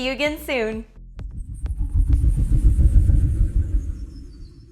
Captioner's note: logo whooshes